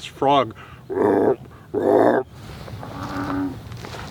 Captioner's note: pretending to croak; frog croaking